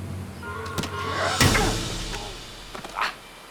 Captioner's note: Hatfield grunts; Hatfield yells